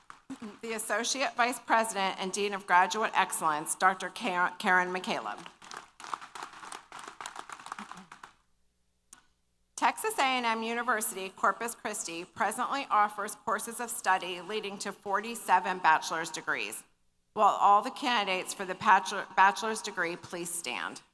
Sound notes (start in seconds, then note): 5.4 applause